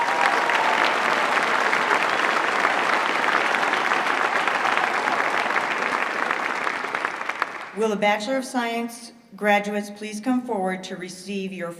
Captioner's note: applause